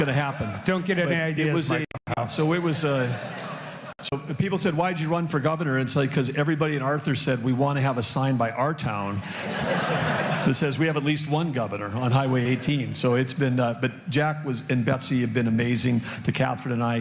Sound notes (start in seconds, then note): 4.4 laughter